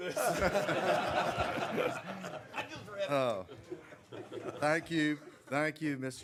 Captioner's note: laughter